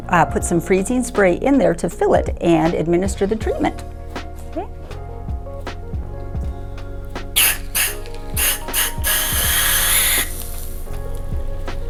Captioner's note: spraying and bubbling sounds